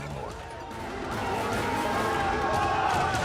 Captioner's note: crowd shouting